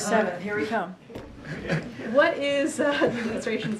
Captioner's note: laughter